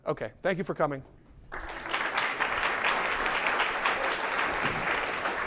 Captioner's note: applause